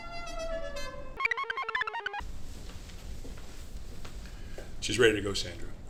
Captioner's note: car horn; computer chirps